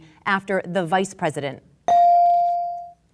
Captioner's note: bell dinging